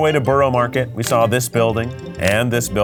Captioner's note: graphics clicking